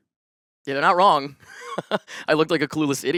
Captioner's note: laughs